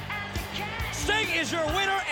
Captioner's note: crowd cheering